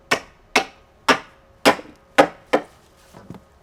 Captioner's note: hammering